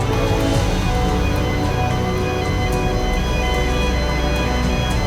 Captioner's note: lifting equipment beeping